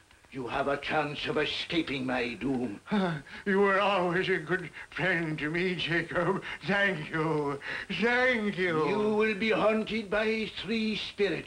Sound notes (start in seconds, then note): none